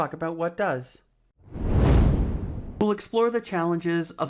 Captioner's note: frame whooshes